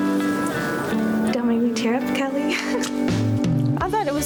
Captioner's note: laughs